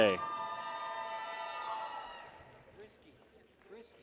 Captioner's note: people cheer